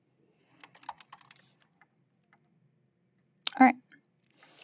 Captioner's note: keyboard clacking continues